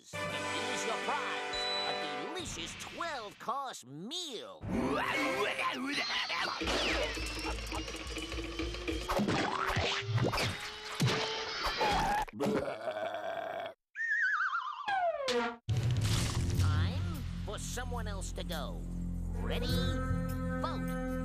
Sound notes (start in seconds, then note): 5.4 exclaiming; 11.8 burping